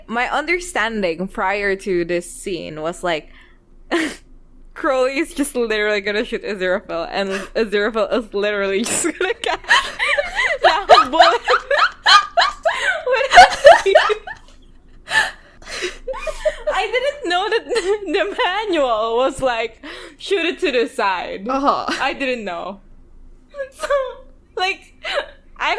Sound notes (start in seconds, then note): 3.3 laughs; 9.1 laughs; 13.2 both laughing